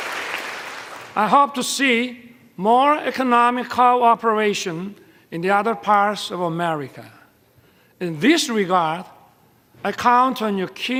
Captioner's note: applause